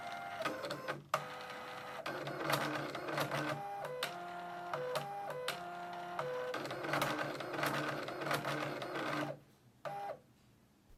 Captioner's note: printer Noises